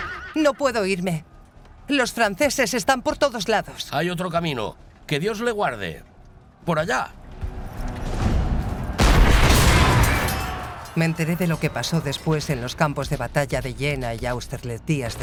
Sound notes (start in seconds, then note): 8.9 cannon blasting